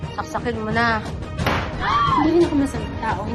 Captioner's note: pops; shrieks